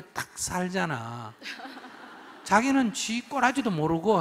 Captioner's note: audience Laughter